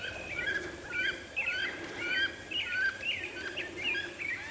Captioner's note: turkeys gobbling